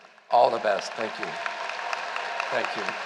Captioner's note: applause